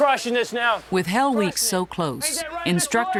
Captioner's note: voiceover